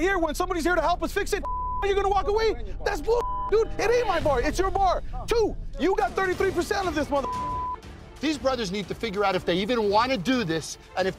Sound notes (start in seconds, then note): 3.0 beep; 7.2 beep